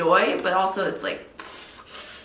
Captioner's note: panting